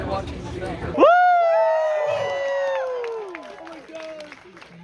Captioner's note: people cheering